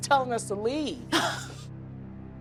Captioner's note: laughs